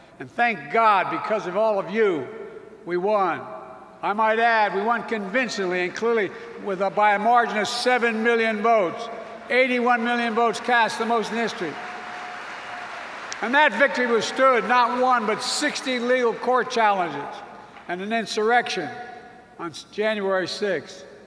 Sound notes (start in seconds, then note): 12.5 applause